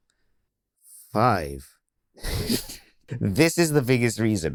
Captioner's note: chuckling